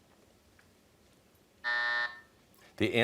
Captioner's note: buzzer sounds